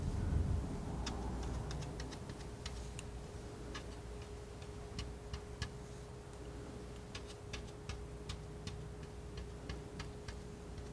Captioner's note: typing sounds